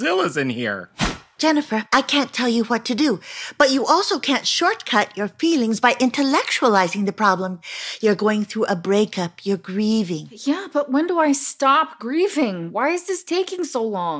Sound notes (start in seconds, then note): 0.9 swish sound